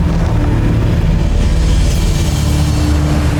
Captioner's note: wind gushing; music fades; mystical music playing; waves crashing